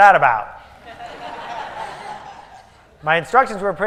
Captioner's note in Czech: Smích